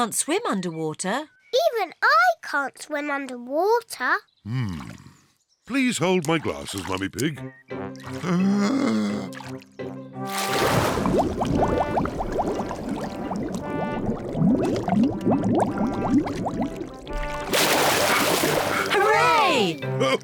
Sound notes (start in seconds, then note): 8.4 takes a deep breath